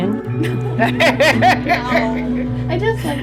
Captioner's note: laughter